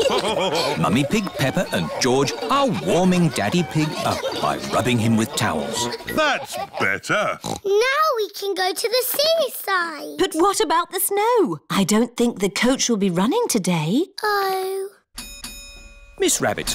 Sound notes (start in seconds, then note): 0.0 laughter; 7.2 oinks; 15.2 coach bell dings